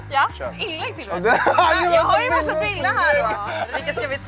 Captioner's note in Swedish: Skratt